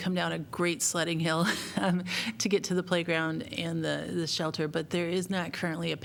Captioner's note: laughter